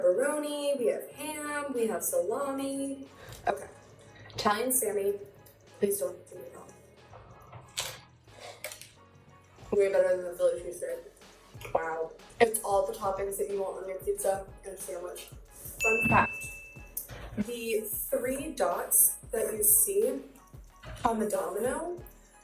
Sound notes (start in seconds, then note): 15.8 ding